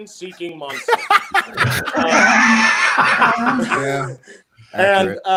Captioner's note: participants laughing